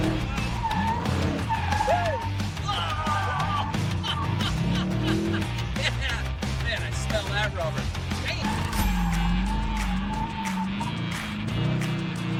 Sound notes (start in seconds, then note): 2.6 laughing